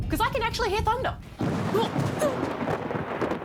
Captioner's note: thunder rumbles; thunder cracks